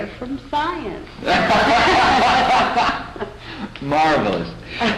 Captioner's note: laughter